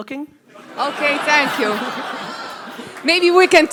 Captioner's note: audience laughter